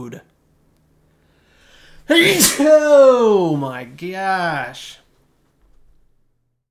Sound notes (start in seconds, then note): 2.0 loud sneeze